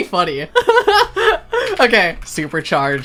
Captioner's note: laughing